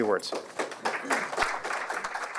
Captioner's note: applause